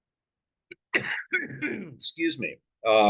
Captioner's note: coughs